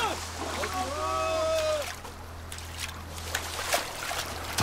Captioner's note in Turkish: Su sesleri